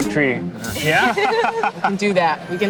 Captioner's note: all laughing